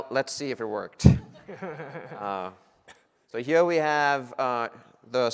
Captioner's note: laughing